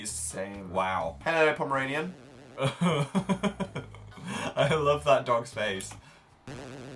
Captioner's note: laughs